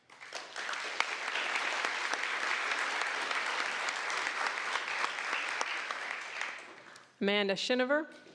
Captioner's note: applause